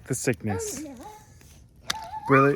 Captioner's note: excited noises